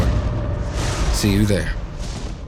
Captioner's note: trueno